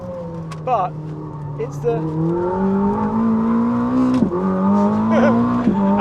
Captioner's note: engine rumbles; chuckles